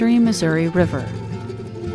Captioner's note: none